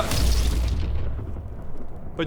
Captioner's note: thunder